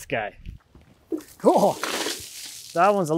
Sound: water splashes

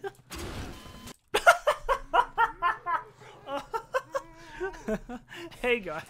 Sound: loud laughter

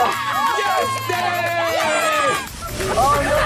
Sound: all cheering

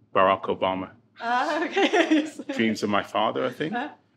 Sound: laughing

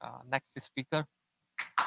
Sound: applause

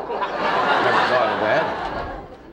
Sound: audience laughing

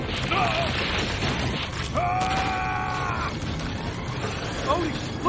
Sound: screaming

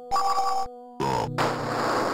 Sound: burp sound

